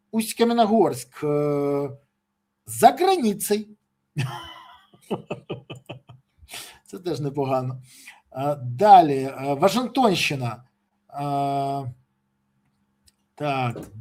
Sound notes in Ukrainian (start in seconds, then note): 4.2 сміх; 6.4 сопіння